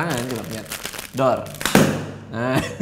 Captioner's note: imitates sound of grenade